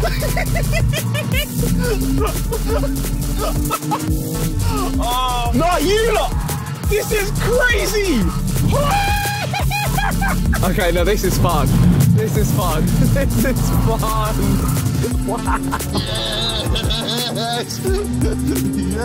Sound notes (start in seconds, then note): 0.0 Harry giggling; 8.7 Tobi screaming